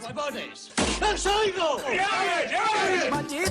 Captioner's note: shouting